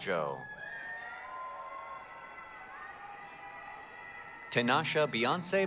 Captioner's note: applause, cheering